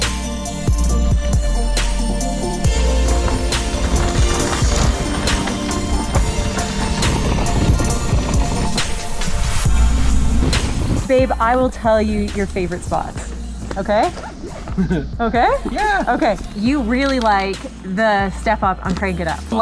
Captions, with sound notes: (tires rumbling) - Babe, I will tell you your favorite spots. Okay? - (laughs) - Okay? - Yeah. - Okay, you really like the step up on Crank it Up?